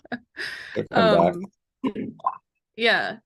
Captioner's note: laughter